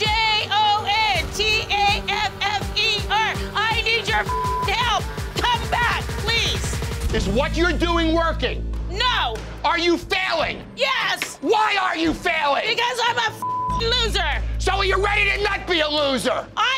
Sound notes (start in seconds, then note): 4.1 beeping; 13.4 beeping